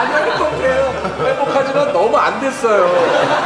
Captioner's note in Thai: เสียงหัวเราะ